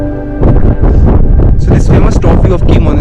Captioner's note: wind gusting